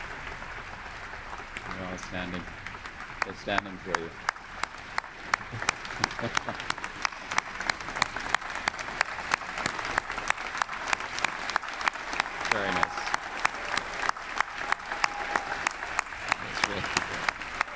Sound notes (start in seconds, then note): 6.0 chuckle; 10.3 applause; 14.4 applause